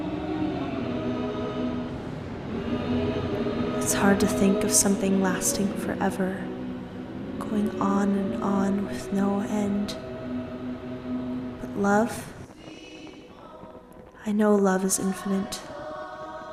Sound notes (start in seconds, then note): 3.8 voiceover